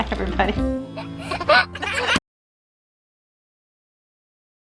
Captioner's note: baby laughing